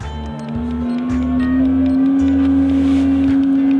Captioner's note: boat whirring